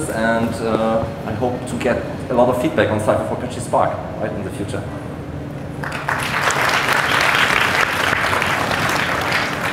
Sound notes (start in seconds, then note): 5.8 audience applauds